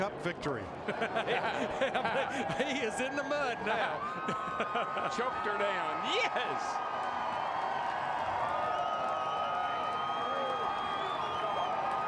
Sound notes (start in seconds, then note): 4.2 laughter; 10.5 cheers and applause